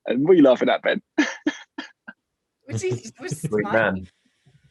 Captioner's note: laughing